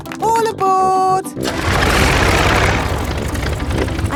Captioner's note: plane engine starts